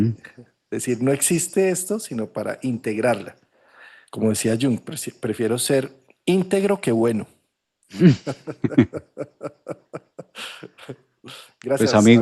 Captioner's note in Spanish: risas